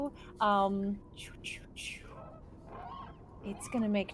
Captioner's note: bird crowing loudly